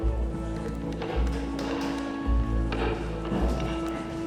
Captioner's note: hammering